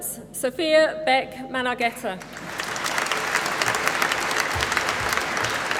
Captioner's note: applause